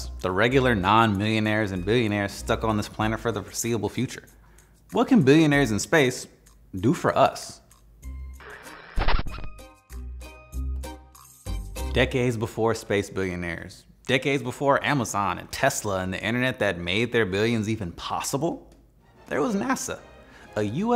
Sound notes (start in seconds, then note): 8.4 graphics fuzzing; 9.5 airy cartoonish music; 19.0 triumphant music